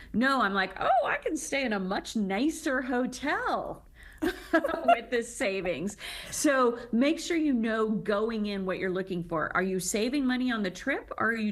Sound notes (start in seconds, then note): 4.2 chuckles; 4.2 laughs